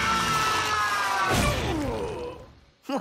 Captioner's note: pained groan